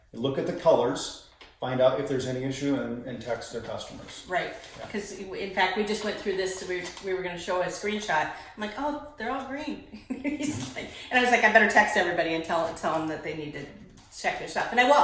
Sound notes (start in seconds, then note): 9.8 laughs